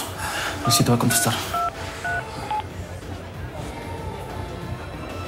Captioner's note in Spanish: Sonido al marcar